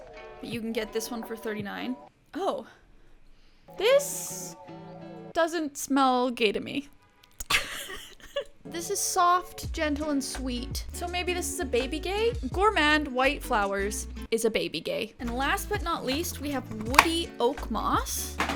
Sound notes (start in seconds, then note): 7.5 laughs